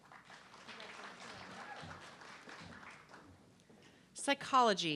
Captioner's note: audience clapping